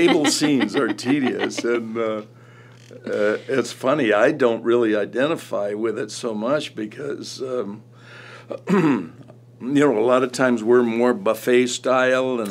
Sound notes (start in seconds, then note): 8.5 James clears throat